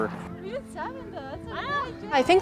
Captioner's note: athletes chatting